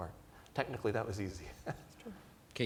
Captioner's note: laughs